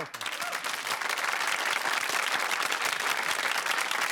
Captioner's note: audience applauding